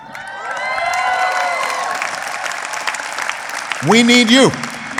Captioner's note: applause